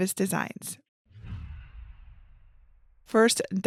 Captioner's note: image whooshes